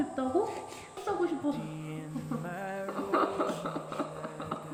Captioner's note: laughs